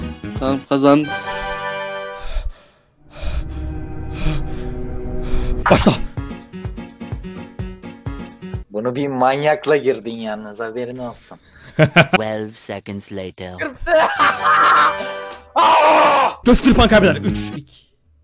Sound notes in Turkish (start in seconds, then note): 11.7 anime laugh